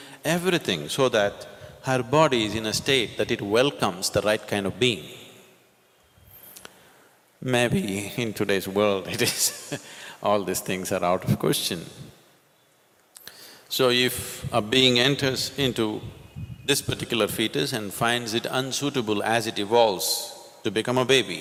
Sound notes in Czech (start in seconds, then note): 9.0 smích